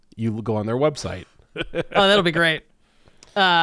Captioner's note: laughs